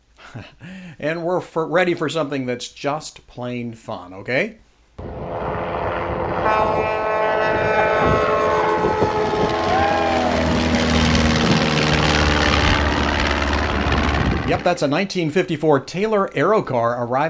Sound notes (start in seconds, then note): 5.0 airplane engine roaring; 6.5 horn beeping